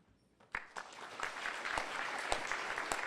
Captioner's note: applause